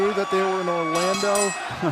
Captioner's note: bell ringing